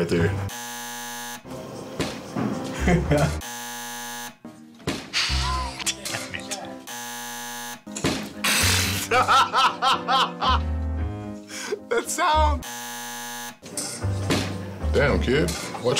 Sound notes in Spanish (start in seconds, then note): 0.4 zumbador; 2.7 Risas; 3.4 zumbador; 4.9 Whump!; 6.8 zumbador; 8.0 Whump!; 12.6 zumbador; 14.3 Whump!